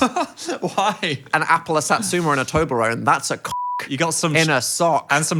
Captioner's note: beeps